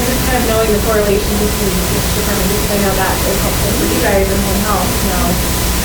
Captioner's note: student asking question softly